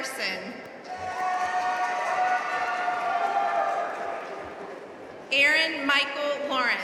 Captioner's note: audience cheering and applauding